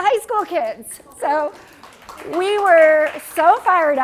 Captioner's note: applause